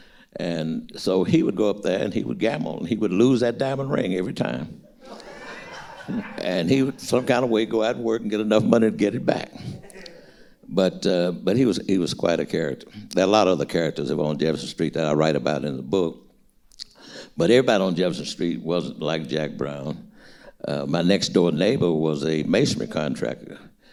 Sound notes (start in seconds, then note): 4.8 audience laughing